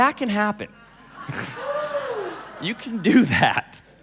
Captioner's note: laughing